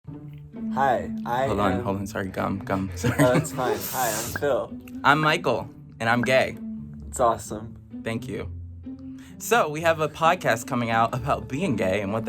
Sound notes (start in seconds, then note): 0.0 whimsical music; 2.7 chuckles